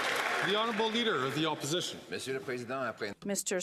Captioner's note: some Applause